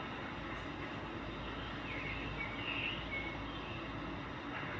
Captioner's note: birds chirping